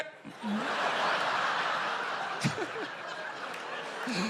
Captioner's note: laughter